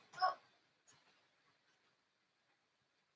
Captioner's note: groans